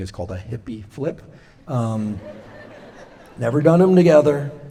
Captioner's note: laughter